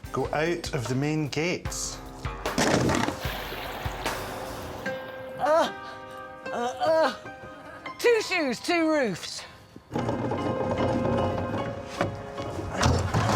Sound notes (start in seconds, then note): 5.4 grunting